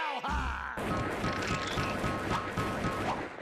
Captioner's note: gun firing